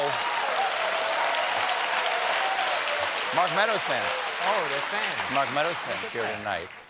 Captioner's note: cheers and applause